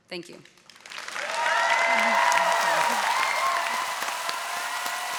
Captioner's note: audience cheering